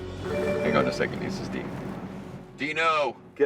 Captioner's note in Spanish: el teléfono suena